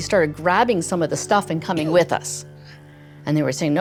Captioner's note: coughs